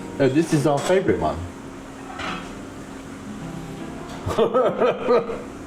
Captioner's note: laughing